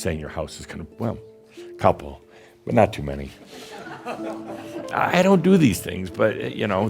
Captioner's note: a few chuckles